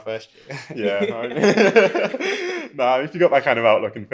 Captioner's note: laughing